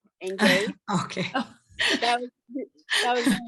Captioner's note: laughs